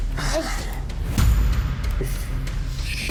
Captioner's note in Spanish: Quejidos ahogados